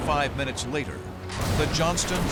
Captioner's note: explosions